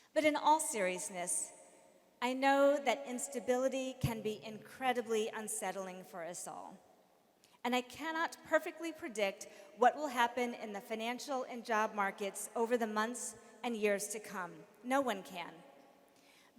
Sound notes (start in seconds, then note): none